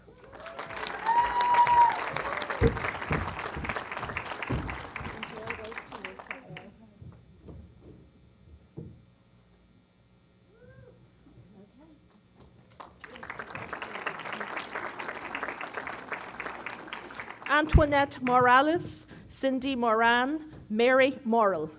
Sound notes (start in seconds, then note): 0.0 applause; 12.7 applause